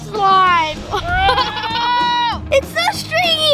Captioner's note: laughing